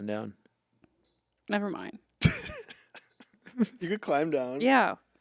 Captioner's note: Anthony laughing